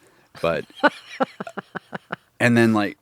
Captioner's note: laughing